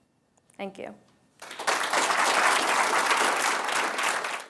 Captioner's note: applause